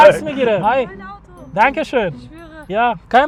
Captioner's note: speaking German